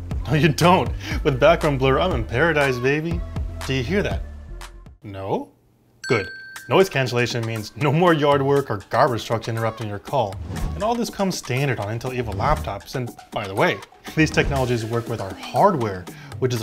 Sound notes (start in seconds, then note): 6.0 bell dings